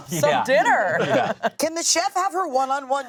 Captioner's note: laughs